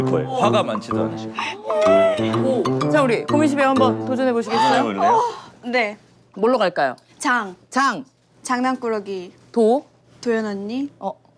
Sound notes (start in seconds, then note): 1.3 almost crying